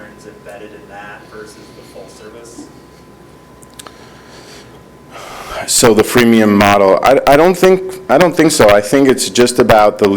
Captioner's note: speaking off microphone